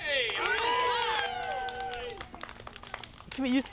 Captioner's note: applauding and cheering